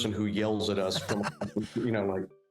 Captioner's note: laughing